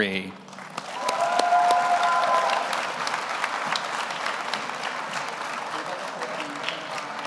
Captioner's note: audience applauds; audience cheers